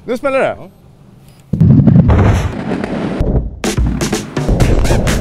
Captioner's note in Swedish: Explosioner